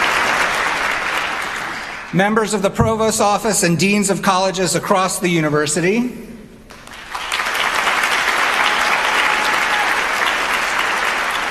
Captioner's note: applause